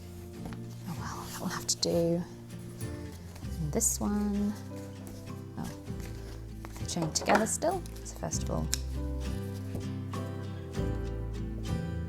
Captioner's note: snips